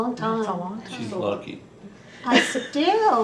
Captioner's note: laughter